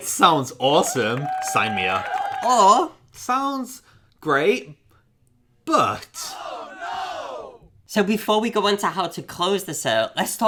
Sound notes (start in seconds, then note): 0.7 distant background cheering; 6.2 background group shouting, "Oh no"